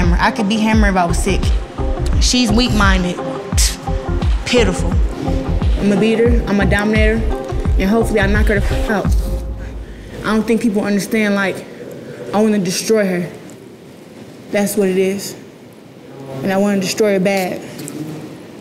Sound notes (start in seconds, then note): 3.8 scoffs